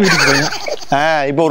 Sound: laughs

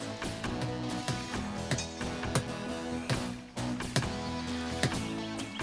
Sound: tapping

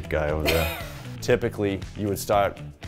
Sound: chuckles

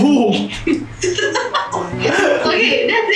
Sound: laughs

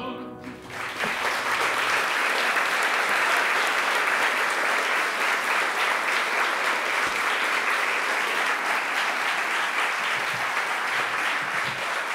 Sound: applause

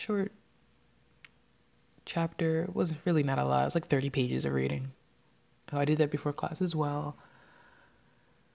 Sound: none

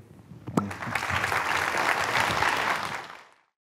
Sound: applause

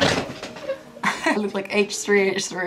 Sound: chuckles

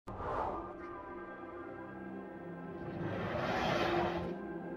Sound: cinematic effects sounds

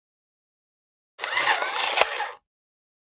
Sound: sound of robot

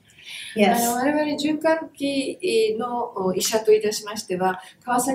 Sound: speaks in Japanese

